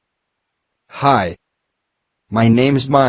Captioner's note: voiceover